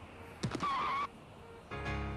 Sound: skidding

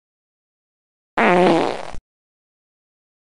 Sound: fart

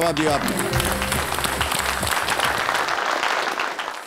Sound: applauding

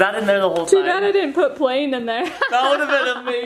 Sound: laughs

